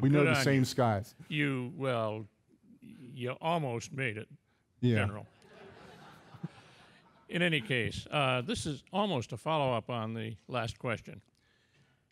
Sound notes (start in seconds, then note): 5.4 audience laughing